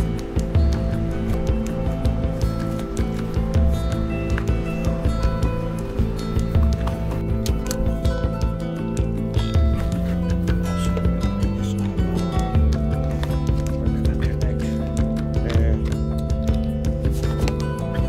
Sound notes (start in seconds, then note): 11.8 all chattering; 15.5 soft music